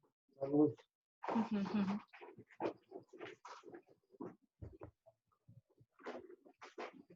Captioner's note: chuckles; speaks faintly